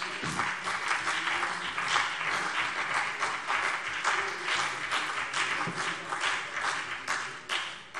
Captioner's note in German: Beifall CDU und BÜNDNIS 90/DIE GRÜNEN